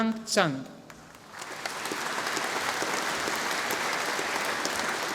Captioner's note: audience applauding